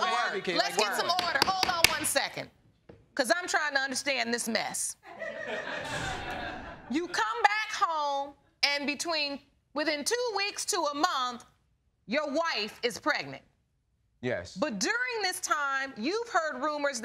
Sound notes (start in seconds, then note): 5.1 audience laughing